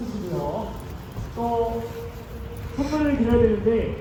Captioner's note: sniff,sniff!